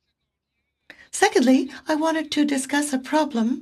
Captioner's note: speaking French